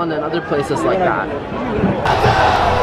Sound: crowd chanting and cheering

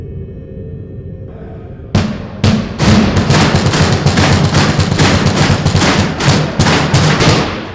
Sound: banging continues

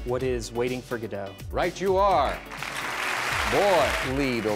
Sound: clapping

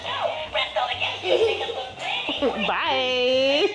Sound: giggles

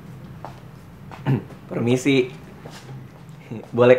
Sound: clears throat

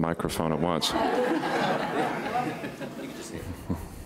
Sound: laughing

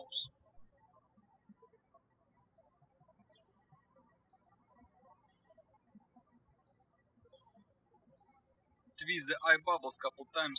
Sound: birds chirping

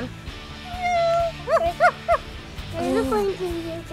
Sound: mom meowing; barking

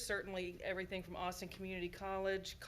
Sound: none

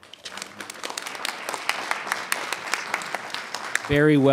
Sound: audience applauding

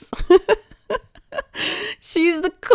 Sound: laughing

